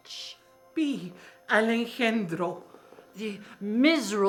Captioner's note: speaking in foreign language